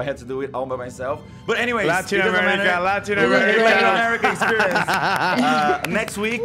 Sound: laughs

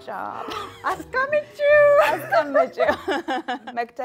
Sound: speaking Amharic

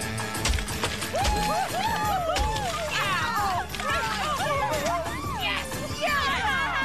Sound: cheering

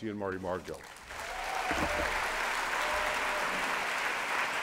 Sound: applause

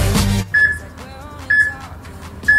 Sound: peep

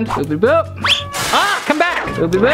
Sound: smashing

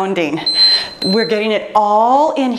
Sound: timer beeps

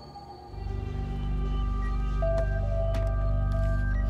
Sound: ominous music; beeping

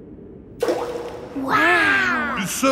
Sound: rock plops

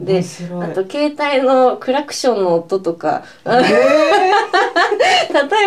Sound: laughs

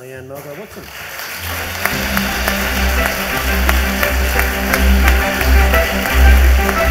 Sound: audience applauds; bright music

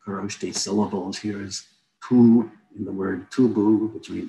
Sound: non-english speech

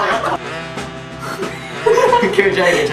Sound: laughs

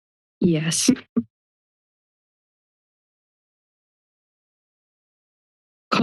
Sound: silence

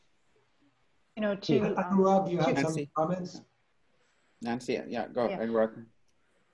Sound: multiple voices

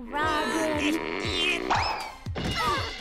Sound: grunting; thudding

